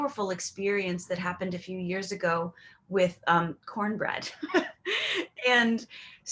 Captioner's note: giggles